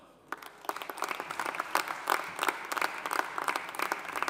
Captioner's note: audience applauding